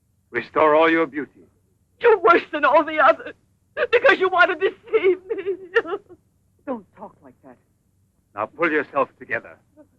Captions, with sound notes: restore all your beauty. - You're worse than all the others, because you want to deceive me. (sobbing) - Don't talk like that. - Now pull yourself together.